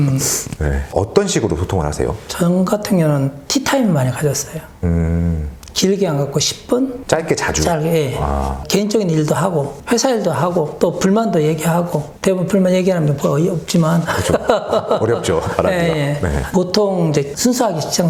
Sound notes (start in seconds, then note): 14.0 Laughs